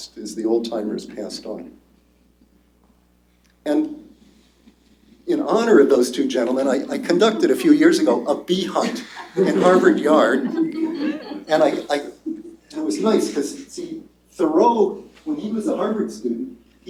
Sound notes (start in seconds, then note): 10.5 laughter